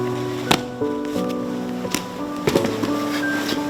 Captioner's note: thudding